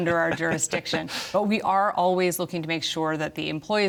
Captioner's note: laughter